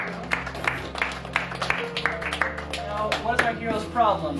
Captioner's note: people clap